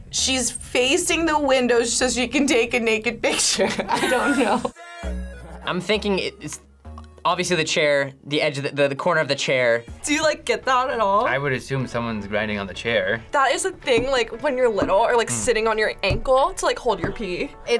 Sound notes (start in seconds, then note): 3.6 laughs